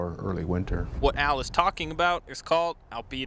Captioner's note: voiceover